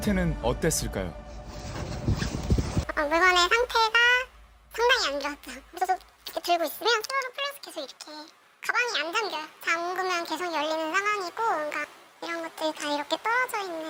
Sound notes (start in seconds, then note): 1.4 voiceover